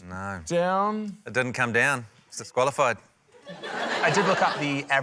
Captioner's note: laughter